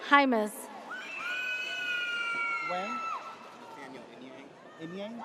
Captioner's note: audience cheers